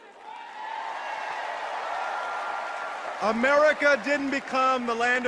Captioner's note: applause